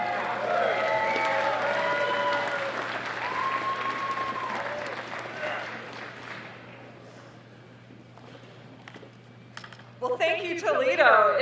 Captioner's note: applause